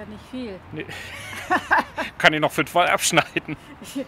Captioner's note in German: lacht